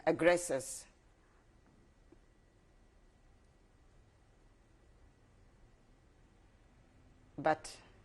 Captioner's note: pauses for 7 seconds